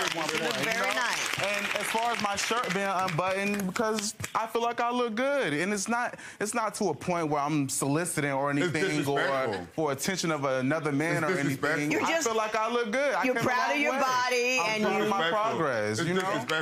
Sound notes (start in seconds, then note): 0.0 audience applauds